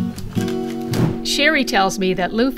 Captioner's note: whoosh SFX